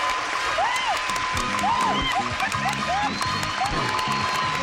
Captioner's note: cheering